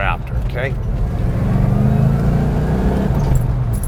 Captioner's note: engine